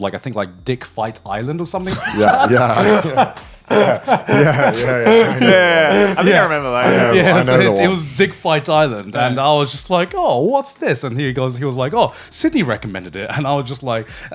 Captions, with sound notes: like I think like "Dick Fight Island" or something. (all laughing) - Yeah, I think I remember that. - I know the lot. - It was "Dick Fight Island," and I was just like, "Oh, what's this?" And he goes like, "Oh, Sydney recommended it." And I was just like,